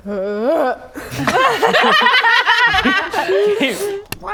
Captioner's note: laughing; dry heave